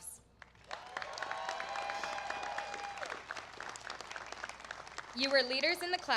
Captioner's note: applause